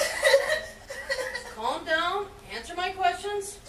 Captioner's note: crying